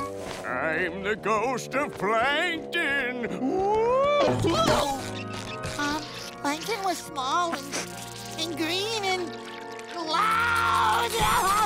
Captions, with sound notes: I'm the ghost of Plankton. [moaning, grunting] Plankton was small and green and loud.